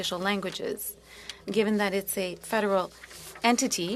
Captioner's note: speaking French